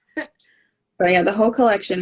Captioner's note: laughing